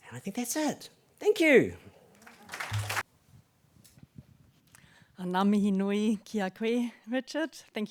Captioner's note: applause